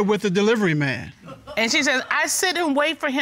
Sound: audience member laughs

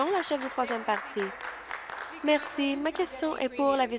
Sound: applause

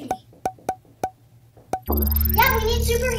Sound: tapping

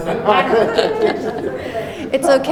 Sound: laughing

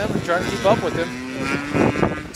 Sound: motorbike engine roaring

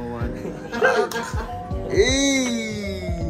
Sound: laughing

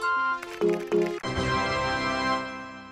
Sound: keyboard sounds V2

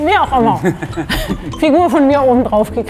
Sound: both laugh

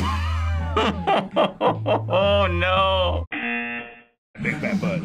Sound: buzzer

